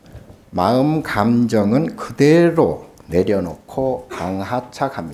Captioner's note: speaking Korean